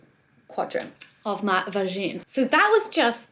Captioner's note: speaks in foreign language